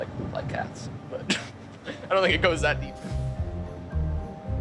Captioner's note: laughs